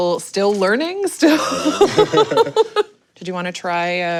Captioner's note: laughs